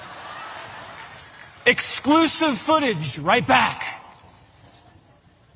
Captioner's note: applause